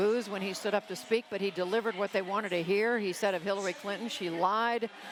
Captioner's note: cheering and applause